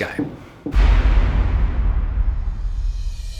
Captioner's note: explosion